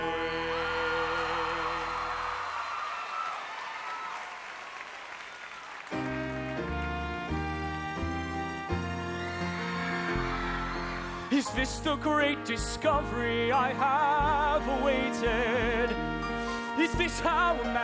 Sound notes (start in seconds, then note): 0.0 cheers and applause